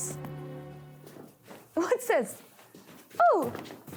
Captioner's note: feet thumping